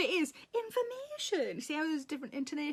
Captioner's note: Sarah with cheerful intonation